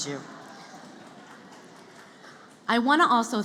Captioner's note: laughter